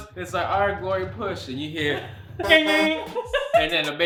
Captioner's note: honking